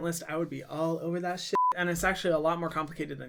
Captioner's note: beep